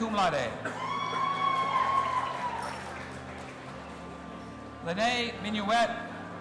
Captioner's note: audience applauding and cheering